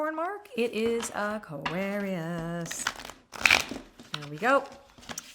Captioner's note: deck shuffling